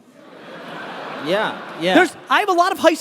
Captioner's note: laughing